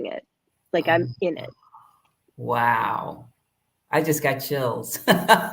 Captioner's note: laughter